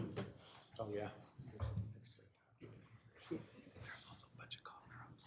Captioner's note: chattering